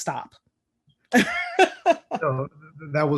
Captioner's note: laughing